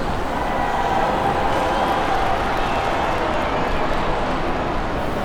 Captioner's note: crowd applauding